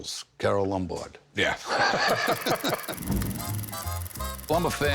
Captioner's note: both laugh